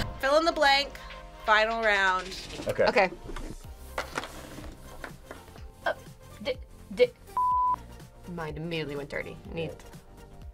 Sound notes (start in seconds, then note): 7.3 beep